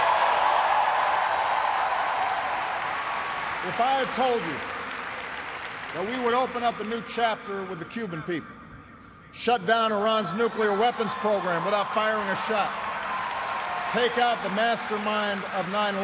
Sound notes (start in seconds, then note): 8.0 cheers and applause